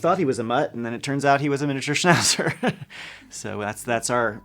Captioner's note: laughs